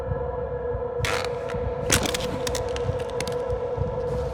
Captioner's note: wood creaking